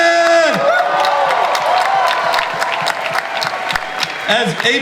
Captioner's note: audience cheers